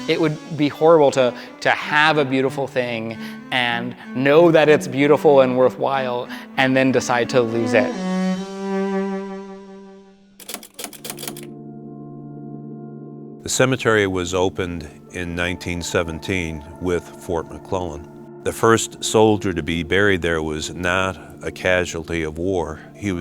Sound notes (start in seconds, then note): 9.1 melancholy music; 10.4 typewriter clatters; 10.7 gentle music